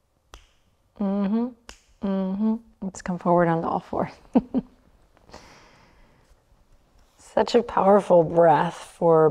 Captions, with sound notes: Mhmmm, (snaps) mhmmm. Let's come forward on the all fours. (chuckles) Such a powerful breath for